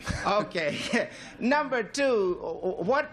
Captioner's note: laughs